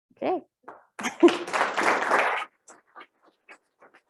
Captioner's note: applause